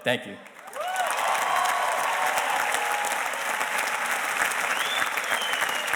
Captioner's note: audience cheers and applauds